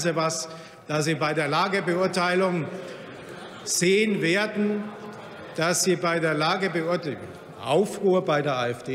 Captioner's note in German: Lachen bei Abgeordneten der AfD